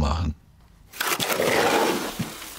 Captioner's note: grinding noises